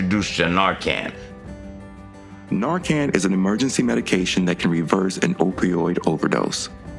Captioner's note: voiceover